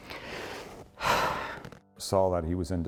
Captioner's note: exhales